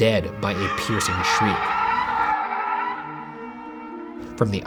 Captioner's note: tire screeching